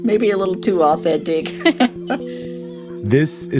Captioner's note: laughter